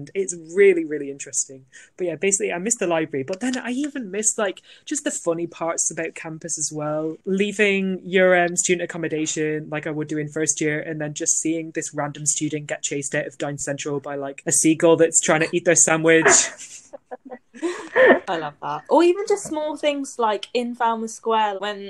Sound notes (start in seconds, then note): 16.2 laughter